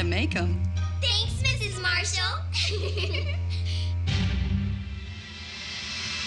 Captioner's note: giggling; dramatic music